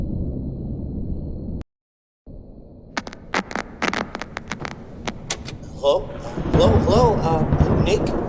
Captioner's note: static